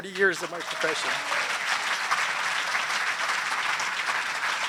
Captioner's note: applause